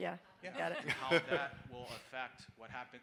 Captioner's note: people laughing